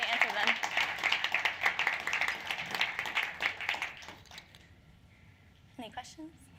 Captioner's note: applause